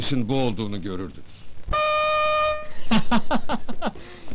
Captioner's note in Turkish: boruyu alayci öttürür ve güler